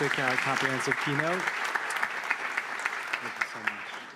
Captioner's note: applause